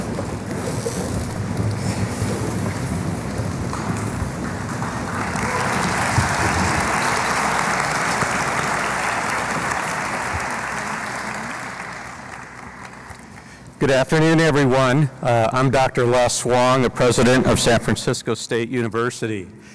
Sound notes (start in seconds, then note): 3.5 applause